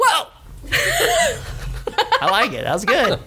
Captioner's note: laughs